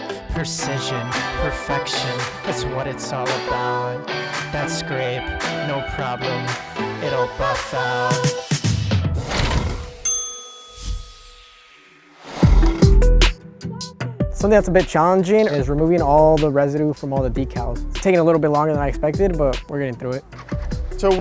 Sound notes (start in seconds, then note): 10.0 ding; 10.2 hip hop music